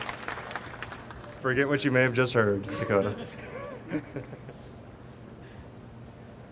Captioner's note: chuckles